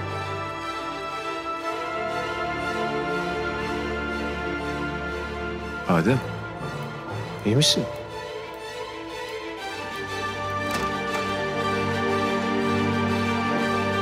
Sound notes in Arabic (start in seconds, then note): 10.3 يفتح الباب